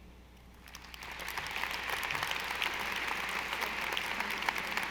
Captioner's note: audience applauding